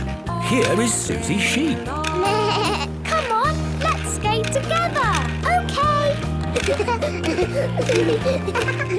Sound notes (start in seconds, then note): 2.4 bleating; 6.6 laughter